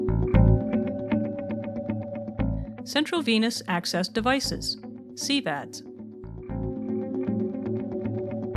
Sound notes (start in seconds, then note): 3.1 voiceover